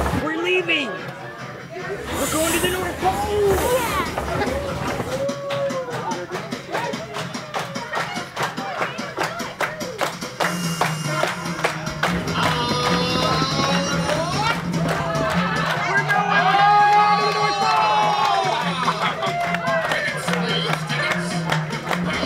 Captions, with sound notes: We're leaving, we're going to the North Pole! - Yeah. (train engine, crew clapping) (cheering) - We're going to the North Pole! (clapping, music)